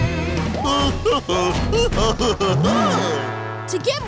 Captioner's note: chuckling